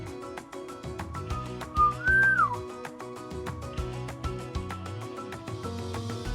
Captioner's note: bird whistle